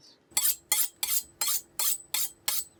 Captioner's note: metal scraping against metal